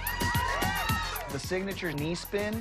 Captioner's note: cheering